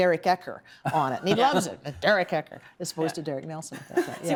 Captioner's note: laughter